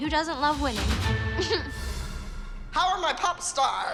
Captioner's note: chuckles